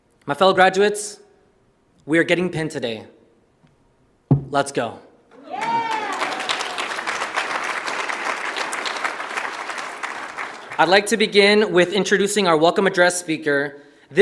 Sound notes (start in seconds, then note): 5.3 audience cheers; 5.4 audience applauds